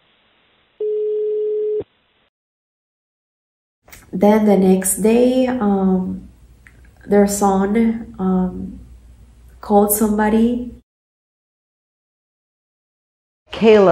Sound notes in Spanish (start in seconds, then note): 0.8 sonido de llamada; 0.8 dial tone